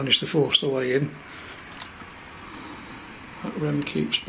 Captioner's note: machine beep